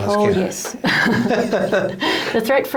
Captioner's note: both laughing